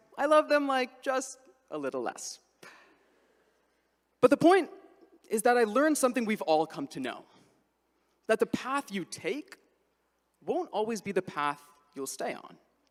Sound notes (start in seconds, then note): none